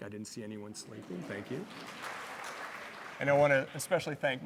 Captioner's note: audience applauding